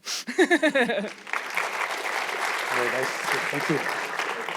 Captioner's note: laughing; audience clapping